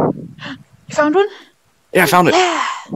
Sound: gasp

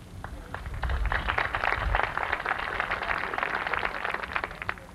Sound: applause

